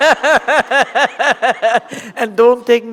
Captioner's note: laughter